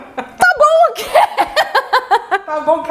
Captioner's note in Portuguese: risos